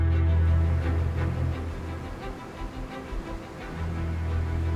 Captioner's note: waves crashing